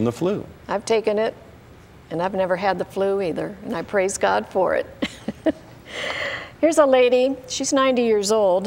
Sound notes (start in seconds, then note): 5.0 chuckling